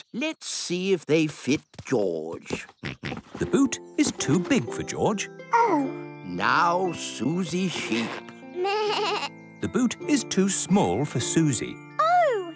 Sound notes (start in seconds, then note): 8.7 bleats